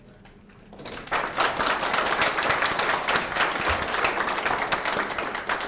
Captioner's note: audience applauds